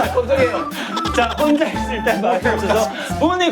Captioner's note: Cười khặc khặc